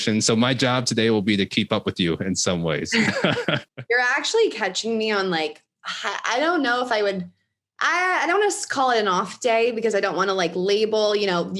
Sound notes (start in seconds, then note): 2.9 laughs